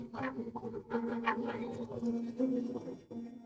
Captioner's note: baby laughing